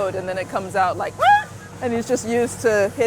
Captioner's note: Walker makes a high-pitched yelp